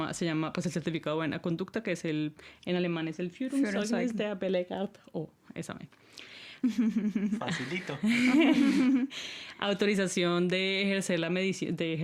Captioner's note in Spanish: risas